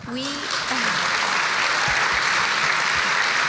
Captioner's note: applause